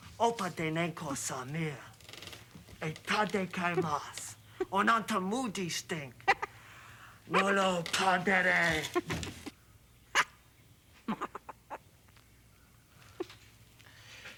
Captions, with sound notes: Opah de nanku sa mir. Eh tarde que mas y nanta mu de, Stink. (Stink chuckles) Me lo car da le. (Stink giggles)